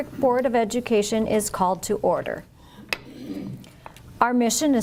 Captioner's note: gavel struck